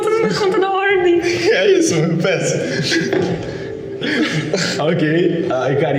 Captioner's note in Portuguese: risos